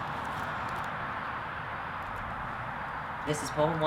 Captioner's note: poet 1 whispers something to the Head Poet